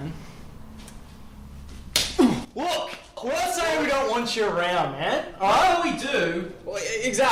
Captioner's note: slap